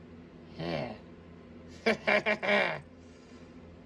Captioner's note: laughs and giggles